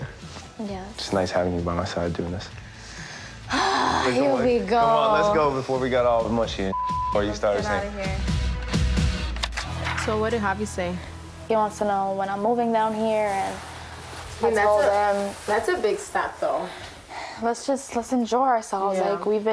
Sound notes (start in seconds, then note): 3.4 groans; 6.7 beep